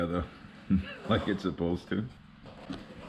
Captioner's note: laughing